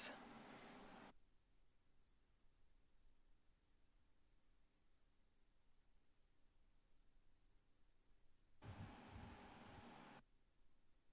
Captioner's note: silence